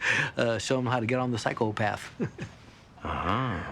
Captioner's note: chuckling